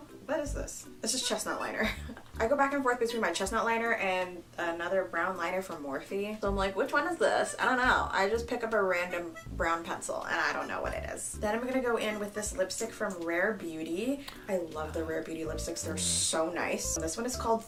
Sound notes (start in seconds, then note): 2.0 chuckling